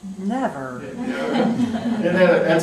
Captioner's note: laughter